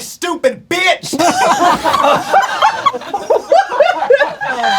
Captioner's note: crowd laughing